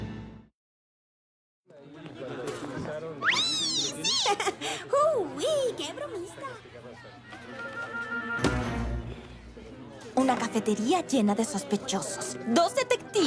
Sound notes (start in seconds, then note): 1.8 happy chatter